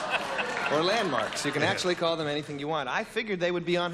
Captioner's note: laughter